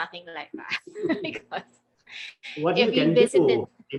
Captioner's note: laughing